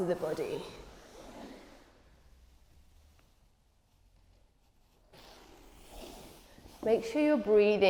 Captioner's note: rustling sounds